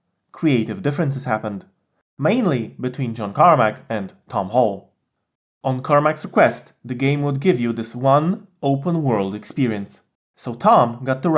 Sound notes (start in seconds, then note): none